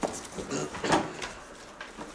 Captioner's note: clears throat